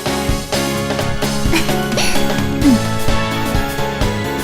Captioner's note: chuckles